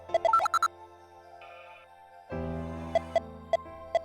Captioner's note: silence